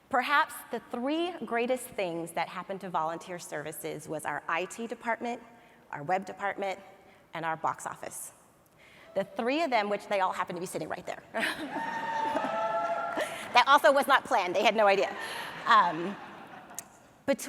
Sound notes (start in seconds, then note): 11.3 laughs; 11.7 audience cheers; 15.0 audience laughs